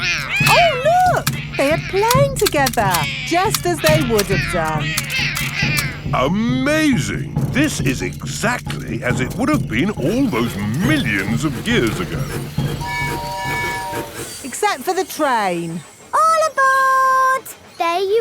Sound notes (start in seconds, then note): 12.6 train tooting